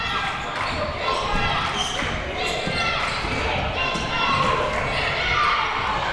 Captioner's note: yelling and chanting